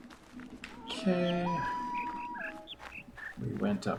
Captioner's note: bird chirps five notes, coyote howls ˩˧˥˥ ˧